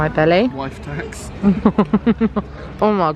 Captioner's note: laughs